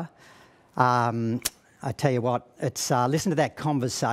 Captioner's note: clicks tongue